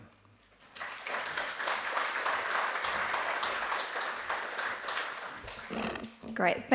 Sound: applause

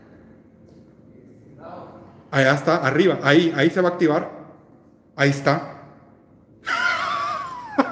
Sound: laughs

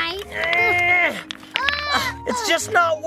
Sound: grunting

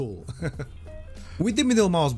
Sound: laughing

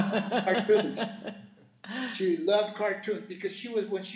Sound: laughing

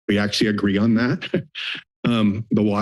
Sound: chuckles

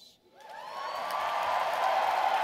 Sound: cheers

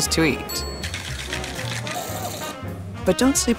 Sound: bell ringing; container shaking

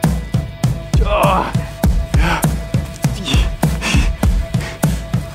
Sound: groaning and breathing heavily

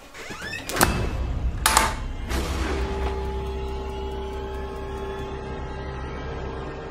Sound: door locking; door slamming; scary music

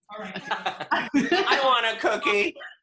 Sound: laughs

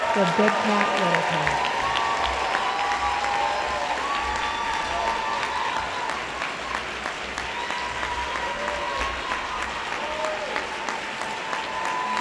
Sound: applause

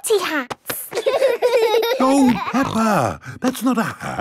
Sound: laughing

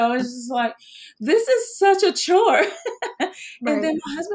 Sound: laughs

